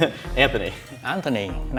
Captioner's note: laughs